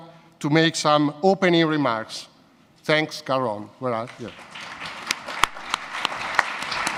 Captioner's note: audience applause